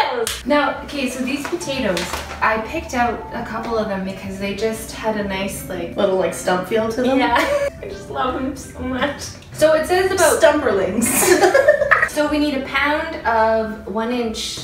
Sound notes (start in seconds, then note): 7.2 laughs; 11.0 both laugh